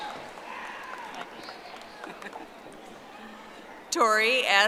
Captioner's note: audience applauding